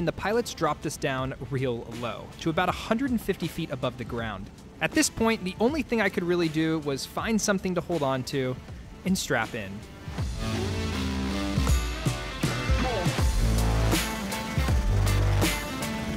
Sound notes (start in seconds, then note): 9.0 energetic upbeat music; 10.1 blades whirring